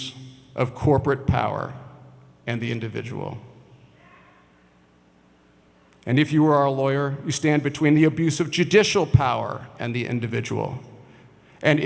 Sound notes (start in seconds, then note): none